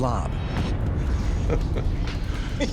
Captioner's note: chuckling